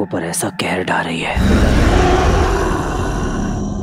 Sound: dangerous growling

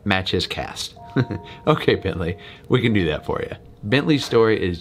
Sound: laughing

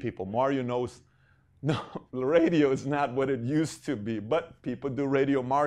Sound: laughing

